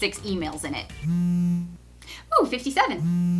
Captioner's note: buzz